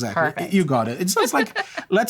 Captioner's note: laughter